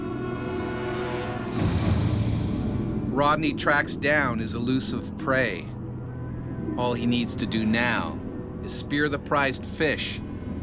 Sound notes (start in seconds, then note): 0.1 haunting music; 3.3 voiceover